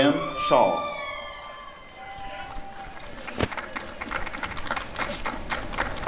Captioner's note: applause